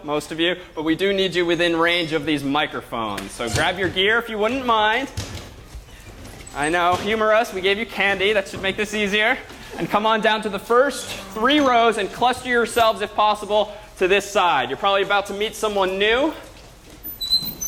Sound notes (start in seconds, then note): none